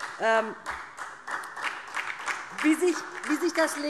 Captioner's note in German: Beifall DIE LINKE und vereinzelt SPD